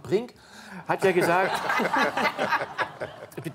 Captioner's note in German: Lachen